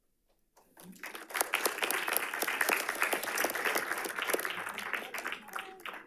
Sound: audience applauding

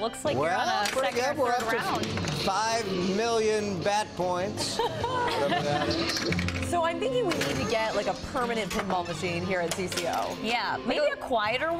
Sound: laughter

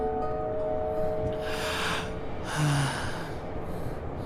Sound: sighs

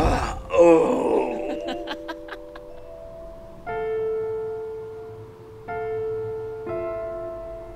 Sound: Benson grunting; gentle music; Lucy laughing

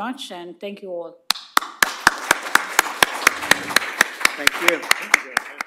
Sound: applause

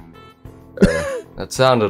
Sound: chuckles

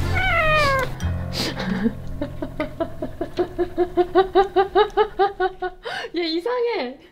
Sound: laugh

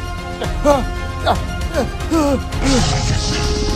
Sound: Hammond Panting; intense music

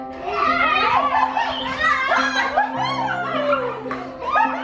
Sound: people laughing

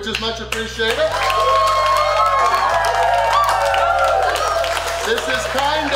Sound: cheering & Clapping

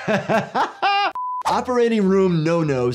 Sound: laughs; broadcast signal beeps

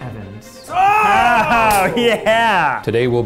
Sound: laughs

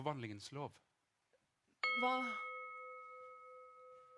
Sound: ding

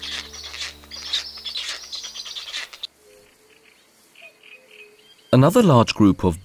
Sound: music, sounds of nature; sounds of nature

